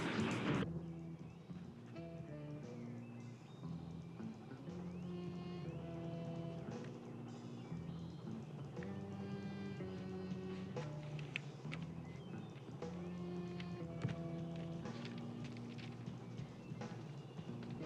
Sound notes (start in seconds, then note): 1.9 jazz music playing; 3.7 gravel crunching; 13.5 crunching continues